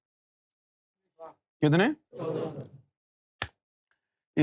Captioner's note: audience repeats